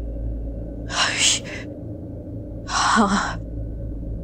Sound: gasping

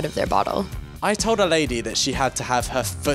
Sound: voiceover

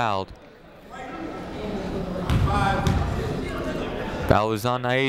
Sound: people talking in the crowd

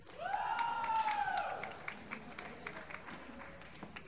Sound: applause

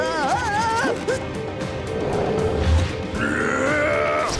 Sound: growling

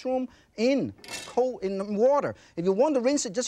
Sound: utensil clinks

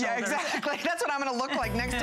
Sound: laughter

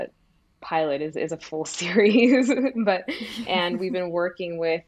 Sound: both laugh

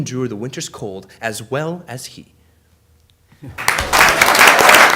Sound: applause

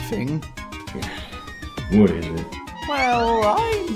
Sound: sigh

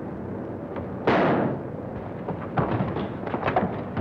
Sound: gunshot

